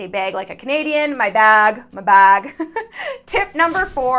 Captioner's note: giggles